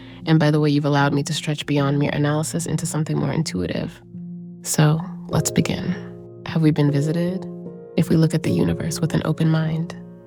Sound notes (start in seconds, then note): none